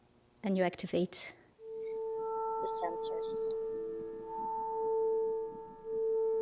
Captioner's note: tone sounding